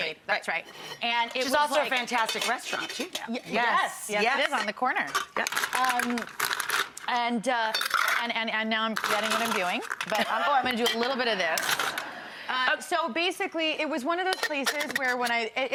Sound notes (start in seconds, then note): 5.0 ice rattles; 10.1 Rachael and audience laugh